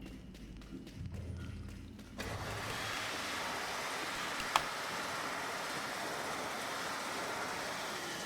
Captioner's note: door opens